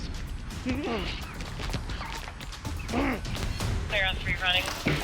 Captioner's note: grunting